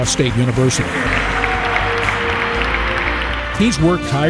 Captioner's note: applause